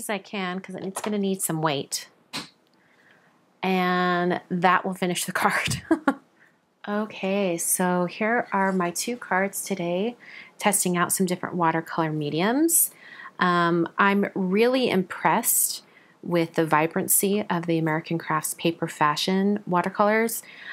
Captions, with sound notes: As many as I can 'cause it's gonna need some weight. And that will finish the card (chuckles). Okay, so here are my two cards today, testing out some different watercolor mediums. I'm really impressed with the vibrancy of the American Crafts Paper Fashion watercolors.